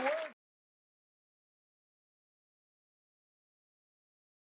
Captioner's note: audience applauds